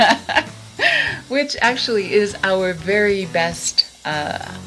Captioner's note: laughs